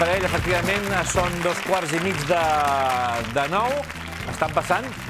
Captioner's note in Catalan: aplaudiments